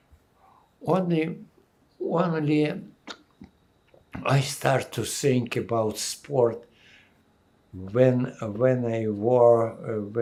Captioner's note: wiping nose